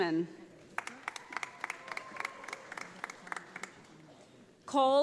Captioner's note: audience applauding